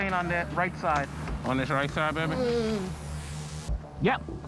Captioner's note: woman moans